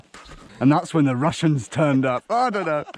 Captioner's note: in Scottish accent